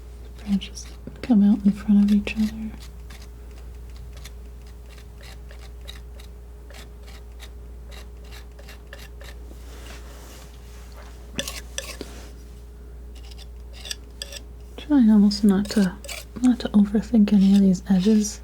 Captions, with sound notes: Branches come out in front of each other. [crunching] Trying almost not to overthink any of these edges,